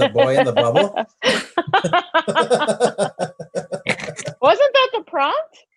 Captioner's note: laugh